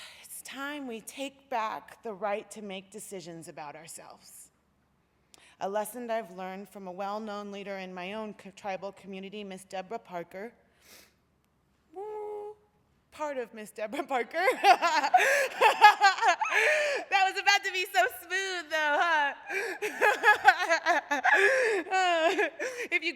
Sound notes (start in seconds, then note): 14.4 laughter; 19.5 laughter